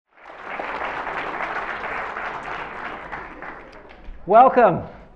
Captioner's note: applause